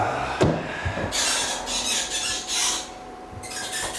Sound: sighs; faucet handles squeak

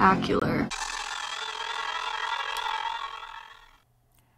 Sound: glitching, crackling audio

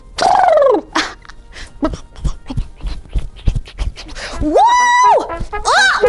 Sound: galloping; galloping continues

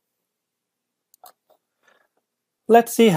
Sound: computer mouse clicks

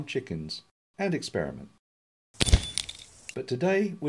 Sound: bang-tinkle-tinkle

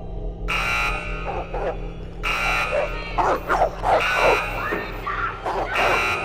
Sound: dog barking; alarm blaring; woman screaming

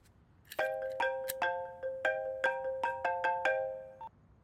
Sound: phone rings

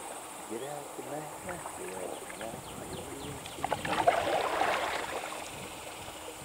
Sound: brother singing indistinctly; water splashes

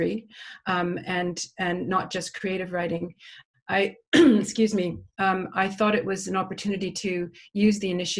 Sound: cough

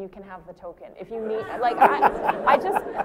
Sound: laughter

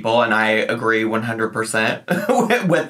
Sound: laughing

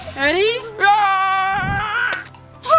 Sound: dad screams; balloon pops

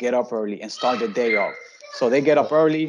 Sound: children screaming

